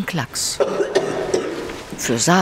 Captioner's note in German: Sie hustet stark